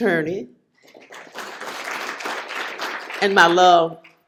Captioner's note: applause